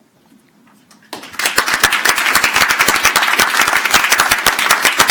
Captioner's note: crowd applauds